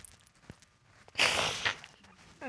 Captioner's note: sobs